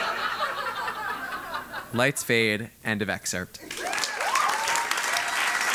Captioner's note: laugh; applause